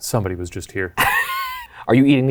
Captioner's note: laughs